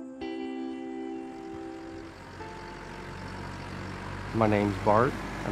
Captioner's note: tractor engine running; voiceover